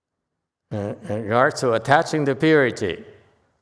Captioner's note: sighs